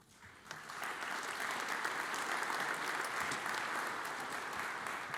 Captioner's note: audience applauds